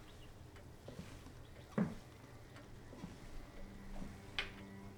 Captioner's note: footsteps tap